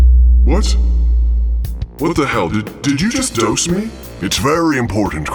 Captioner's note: pitch moving downward; a dropping tone